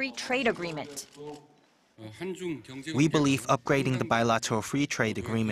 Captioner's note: Korean